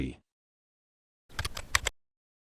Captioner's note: typing